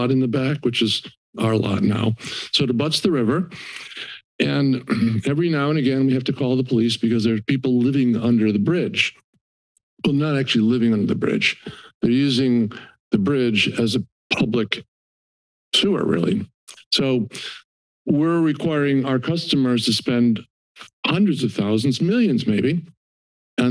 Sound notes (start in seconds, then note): 3.5 inhales; 4.7 clears throat